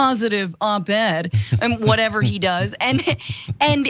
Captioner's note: laugh